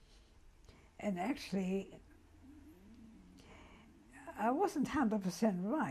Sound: pauses for 3 seconds

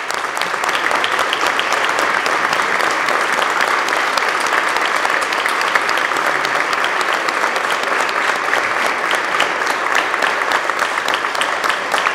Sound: applause

